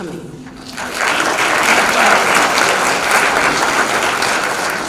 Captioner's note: audience clapping